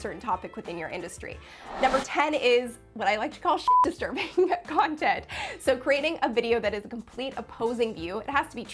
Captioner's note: beep